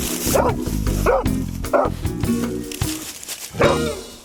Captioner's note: dog barking